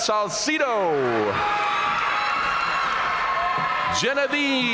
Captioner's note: audience cheering and applauding